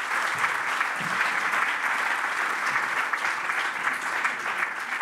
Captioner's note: applause